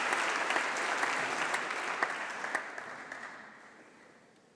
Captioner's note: applause